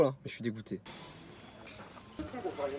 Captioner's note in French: pffffff